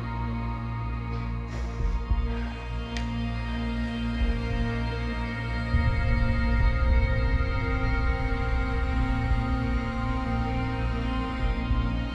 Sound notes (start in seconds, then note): 0.0 tense music continues; 1.7 Liz panting; 7.0 tense music